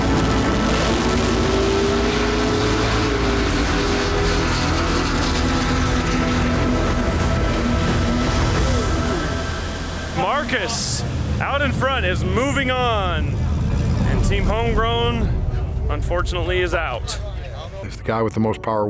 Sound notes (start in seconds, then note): 3.9 car engine revving; 7.9 tense music